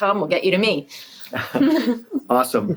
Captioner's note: laughing